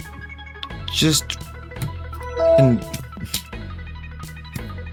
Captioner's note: windows 7 log off sound